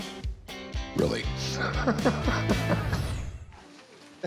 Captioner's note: laughs